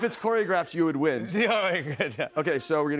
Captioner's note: chuckles